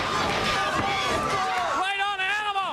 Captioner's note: crowd chatter